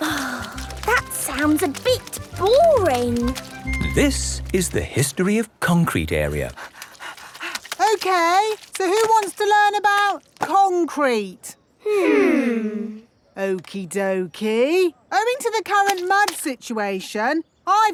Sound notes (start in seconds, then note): 6.6 panting